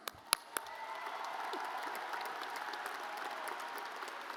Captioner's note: audience applauds